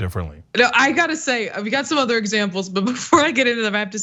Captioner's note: laugh